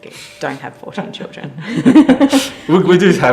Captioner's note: laughing